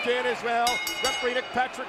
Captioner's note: bell rings